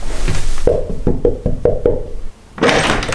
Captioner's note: knocking on the door